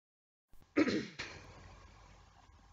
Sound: clears throat

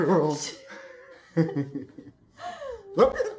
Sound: gasp

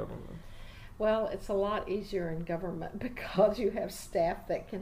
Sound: laughingly

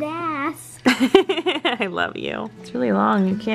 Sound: laughs

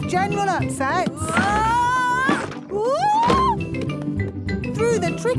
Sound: wood teetering

